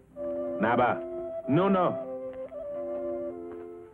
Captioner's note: speaks foreign language; sentimental flute music